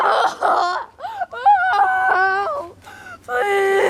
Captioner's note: senseless wailing